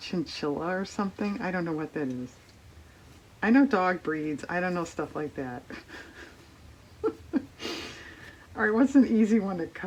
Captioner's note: laughs